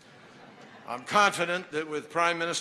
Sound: laughter

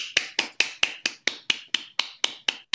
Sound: applause

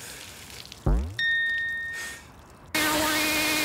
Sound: bell dings

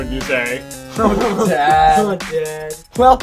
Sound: laughs

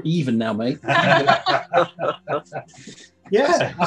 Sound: laughing

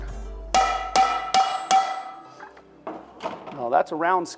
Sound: metal clangs

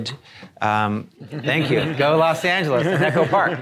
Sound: audience laughing

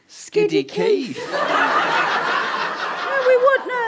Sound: audience laughter

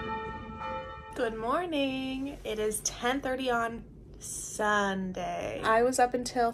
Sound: bells ringing

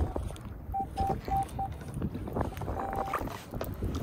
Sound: beep beep

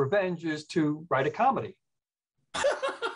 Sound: laughs

